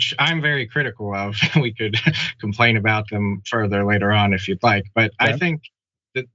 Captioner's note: laugh